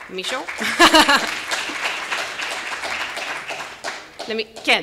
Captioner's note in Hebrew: מחיאות כפיים